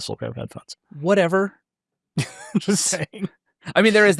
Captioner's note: chuckles